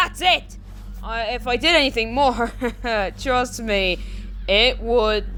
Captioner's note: laughs nervously